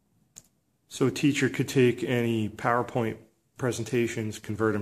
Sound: voiceover

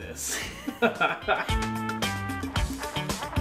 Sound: laughter

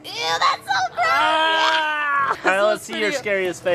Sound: shouting

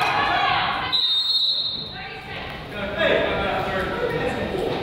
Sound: whistle blows

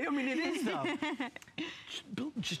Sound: laughter

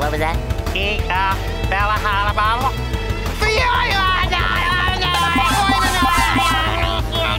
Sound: talking gibberish

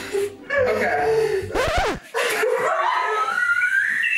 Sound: disc scratching; laughing

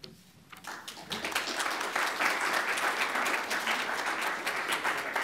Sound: applause

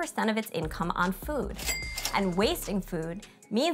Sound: cash register dinging

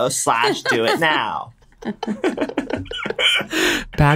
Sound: laughter

